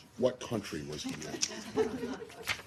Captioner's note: laughter